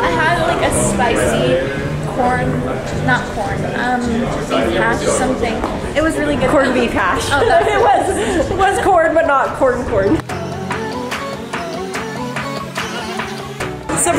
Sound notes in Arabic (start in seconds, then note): 6.2 يضحك; 9.5 موسيقى إلكترونية مبهجة